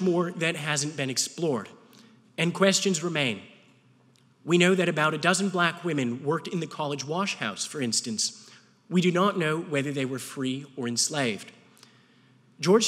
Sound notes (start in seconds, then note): none